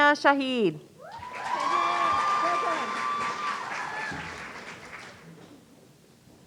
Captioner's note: audience cheering